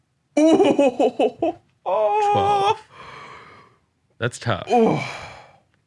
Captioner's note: laughing